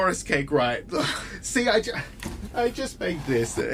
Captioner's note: Bob squeals